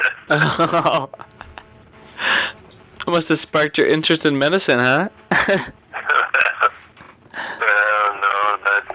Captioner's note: laughter